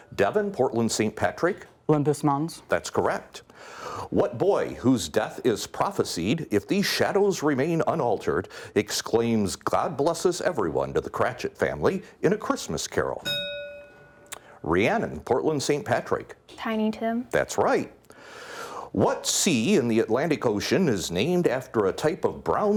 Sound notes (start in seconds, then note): 13.2 bell ringing